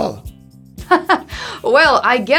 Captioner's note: laugh